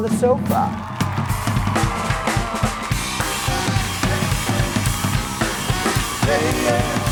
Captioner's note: live band music; audience claps